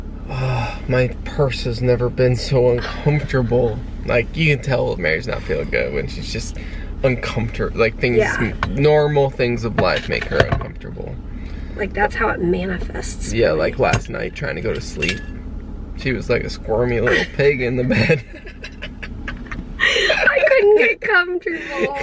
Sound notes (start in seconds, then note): 17.0 laughter